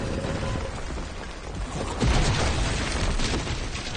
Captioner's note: crashing